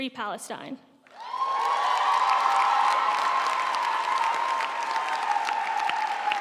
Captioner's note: audience cheering and applauding